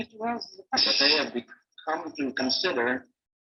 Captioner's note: audio distorting